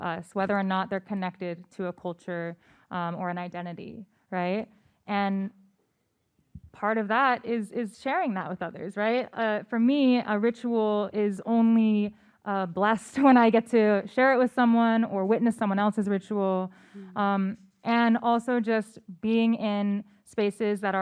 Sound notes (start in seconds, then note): none